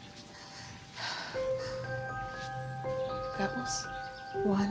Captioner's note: Beth takes deep breath